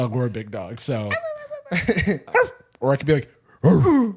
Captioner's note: high pitched bark; low pitched bark; low pitched grunt